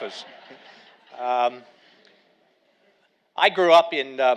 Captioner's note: audience laughing